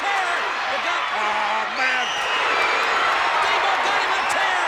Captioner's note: audience cheers